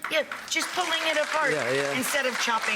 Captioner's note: audience applauds